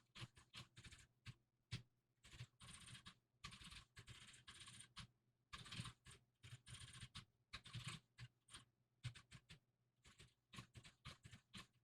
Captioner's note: typing sounds